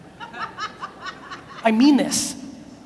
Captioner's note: audience laughs